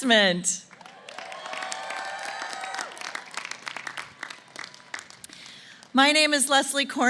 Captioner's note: applause & Cheering